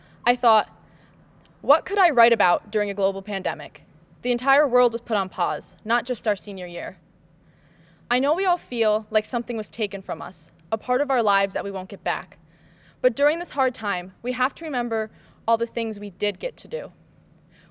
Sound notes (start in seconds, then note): none